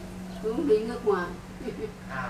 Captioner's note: laugh